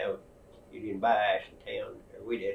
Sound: laughs

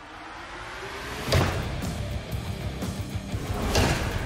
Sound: chopping

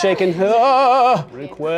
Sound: makes ghost noise

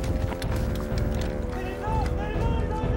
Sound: orders shouted

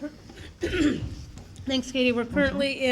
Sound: clears throat

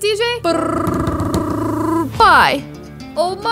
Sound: mimics drumroll

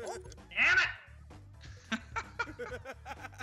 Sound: laugh

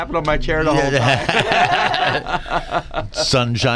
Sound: laughing

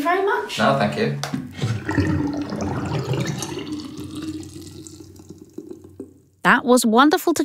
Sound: sound of water draining

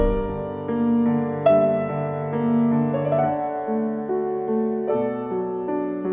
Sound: drone

